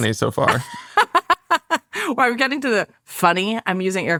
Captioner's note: laughs